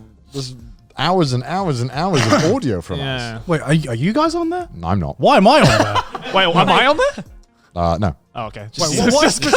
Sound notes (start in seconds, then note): 5.5 laughs